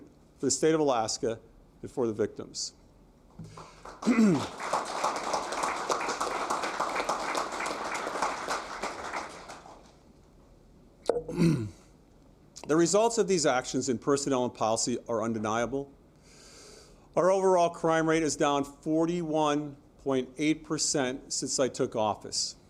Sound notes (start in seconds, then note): 9.2 applause